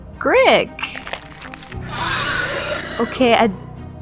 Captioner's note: monster screech